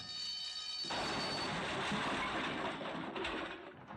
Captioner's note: loud Crash